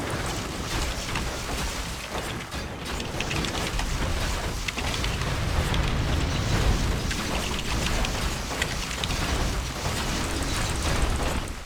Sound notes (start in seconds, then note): 0.7 typing sounds again